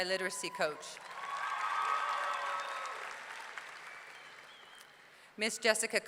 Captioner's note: audience clapping; audience cheering